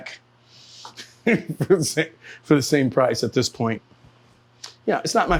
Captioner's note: laughs